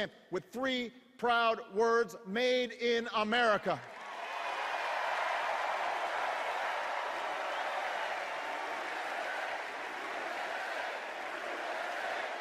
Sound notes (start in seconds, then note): 3.8 cheers and applause